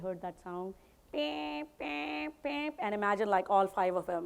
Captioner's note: mimics alarm